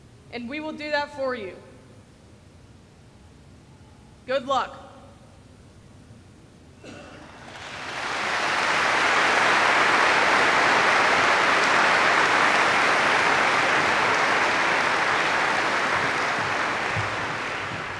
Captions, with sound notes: and we will do that for you. Good luck. [APPLAUSE]